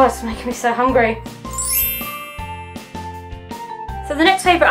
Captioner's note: bell transition sound effect